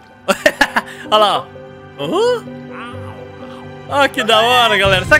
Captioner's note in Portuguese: risos